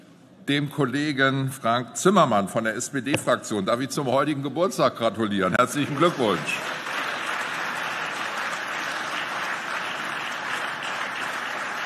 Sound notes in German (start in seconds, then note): 7.2 Beifall